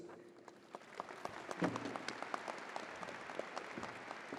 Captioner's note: crowd applauding